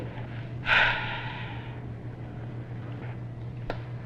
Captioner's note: sighs